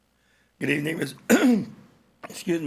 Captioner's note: coughs